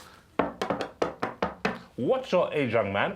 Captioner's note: tapping